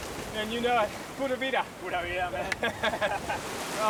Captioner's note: laughter